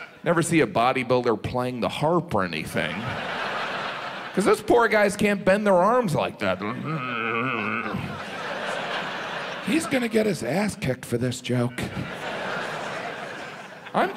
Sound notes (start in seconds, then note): 2.8 audience laughs; 6.6 grunts; 8.4 audience laughs; 11.4 audience laughs